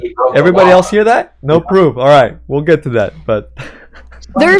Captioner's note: laughs